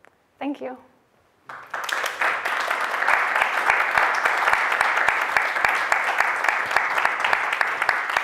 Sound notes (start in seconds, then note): 1.4 applause